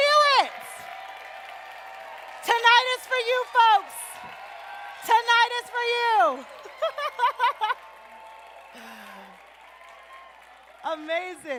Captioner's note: appluause